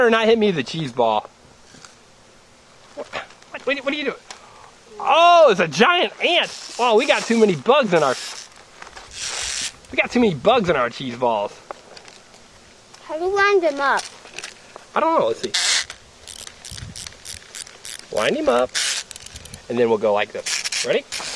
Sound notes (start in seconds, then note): 13.9 voiceover